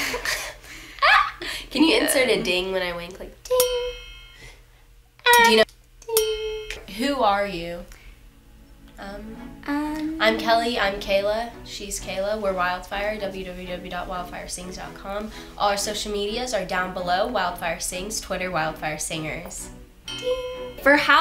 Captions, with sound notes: (laughter) - Can you insert a ding when I went? (bell) - Who are you? Um, I'm Kelli I am Kayla she's Kayla were Wildfire. Www.wildfiresings.com All our social medias are down below. Wildfiresings twitter wildfiresingers. (bell)